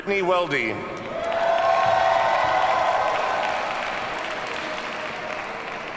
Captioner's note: audience cheers and applauds